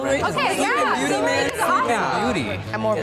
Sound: all speaking excitedly

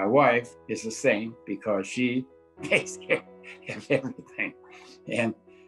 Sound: chuckling

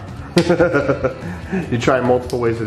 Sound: chuckles

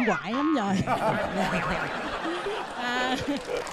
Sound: laughing

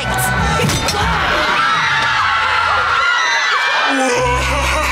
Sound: screaming

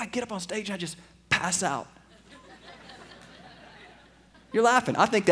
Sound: laughter

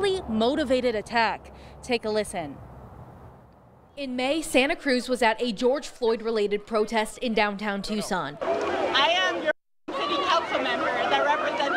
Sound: nat pop of santa cruz yelling

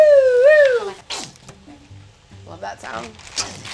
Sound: bottle squirts

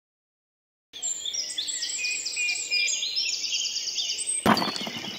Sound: birds Chirping

